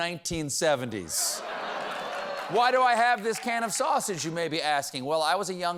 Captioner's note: laughter